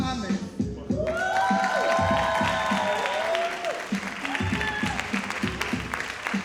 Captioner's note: audience cheering and applauding